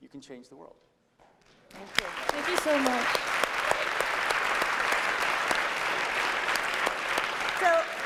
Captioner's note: applause